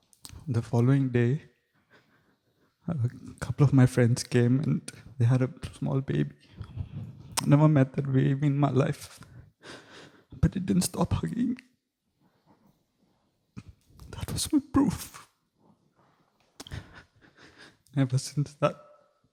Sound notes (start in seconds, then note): 16.6 sobbing softly